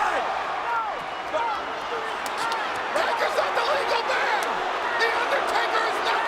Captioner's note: applause